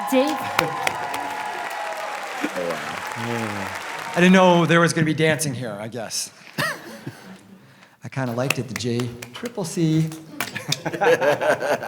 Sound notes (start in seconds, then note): 0.0 audience cheers and applauds; 10.4 laughs